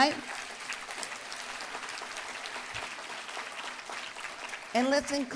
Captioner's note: applause